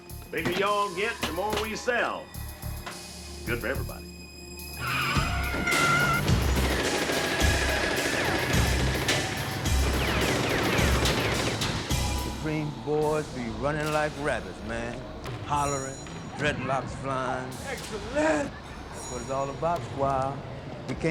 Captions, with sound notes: Bigger y'all get, the more we sell. Good for everybody. (tires screeching) (gunshots ringing) - Supreme's boys be running like rabbits, man. Hollering, dreadlocks flying. - Excellent. - That's what it's all about, Squire.